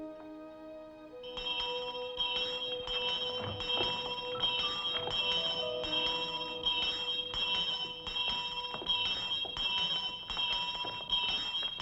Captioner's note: bell ringing